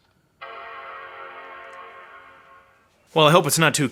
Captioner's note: computer dinging